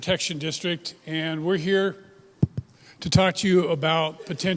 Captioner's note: microphone tapping